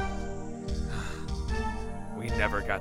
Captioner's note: sigh